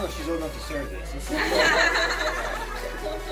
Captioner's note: girls laughing